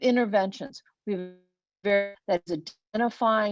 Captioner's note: web-call distortion